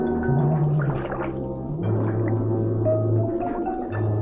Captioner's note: water swishing